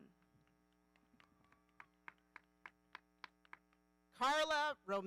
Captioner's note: audience applauding